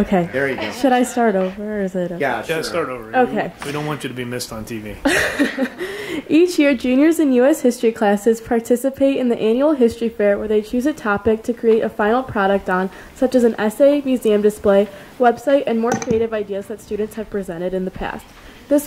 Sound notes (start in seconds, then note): 5.1 laughs